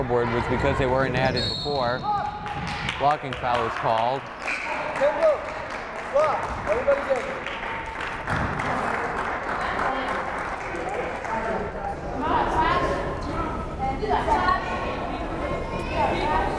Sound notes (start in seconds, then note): 1.3 whistle blows; 4.7 crowd applauding